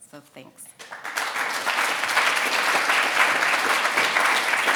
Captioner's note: audience applauding